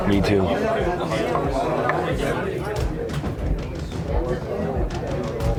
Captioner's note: chatter grows louder